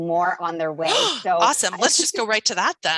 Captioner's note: gasps